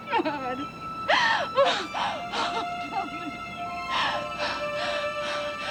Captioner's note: sobbing